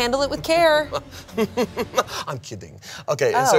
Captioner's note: chuckles